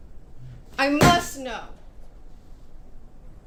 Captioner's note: bangs